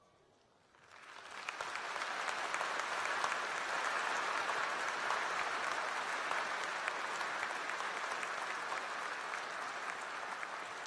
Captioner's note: applause